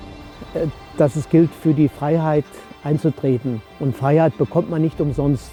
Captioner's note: speaking in German